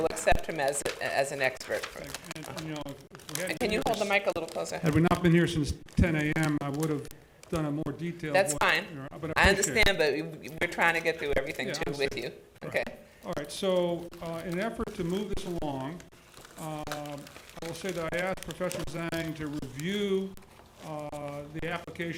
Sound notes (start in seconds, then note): 2.4 talking quietly